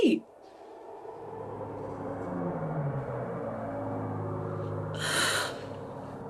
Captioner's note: distant plane